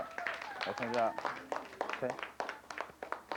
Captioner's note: applause